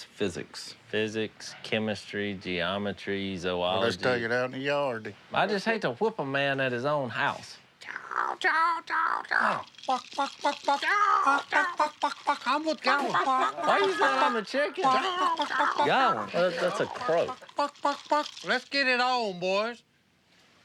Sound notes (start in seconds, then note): 7.6 chicken clucking; 9.8 clucking